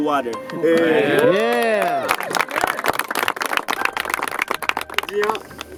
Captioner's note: applauding; cheering; speaking in foreign language